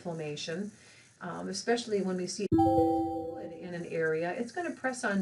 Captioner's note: alarm sound